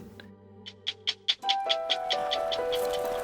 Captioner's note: tick tick tick